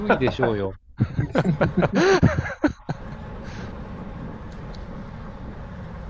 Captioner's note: laughs